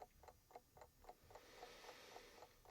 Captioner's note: sighs with relief